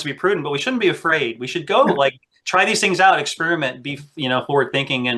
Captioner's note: laughs